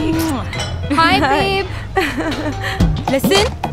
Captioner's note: Laughing